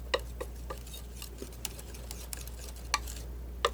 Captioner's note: scratching